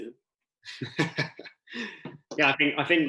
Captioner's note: laughs